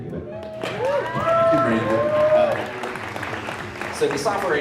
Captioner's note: applaudissements